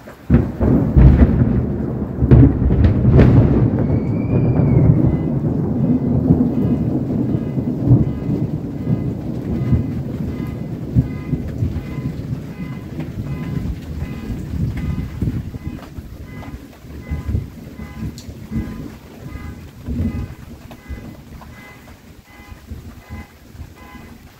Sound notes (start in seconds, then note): 0.3 very loud thunder booms and crackles; 5.1 car alarm goes off; 5.1 very loud thunder booms and crackles; 12.0 car alarm goes off; 12.0 thunder fades